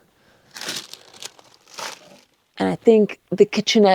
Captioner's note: packet whirring